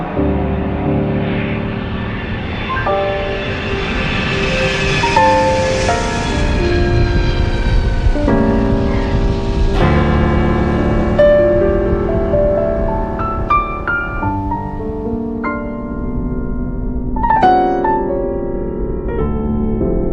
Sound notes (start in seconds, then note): 2.7 sound of a plane taking off; 8.1 somber music